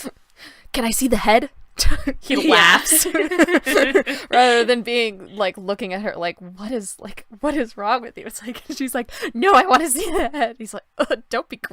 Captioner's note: laughter